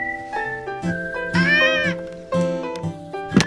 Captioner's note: butler screaming